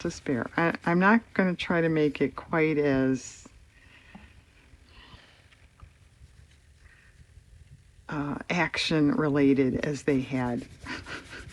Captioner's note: laughs